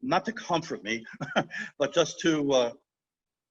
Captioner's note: chuckling